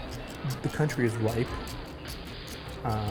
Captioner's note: voiceover